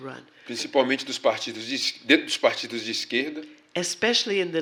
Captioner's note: speaking portuguese